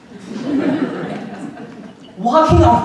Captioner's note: audience laughing